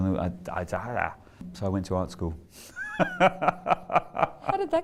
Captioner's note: laughs